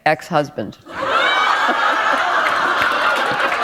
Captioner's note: laughter